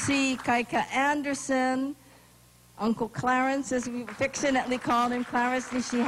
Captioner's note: applause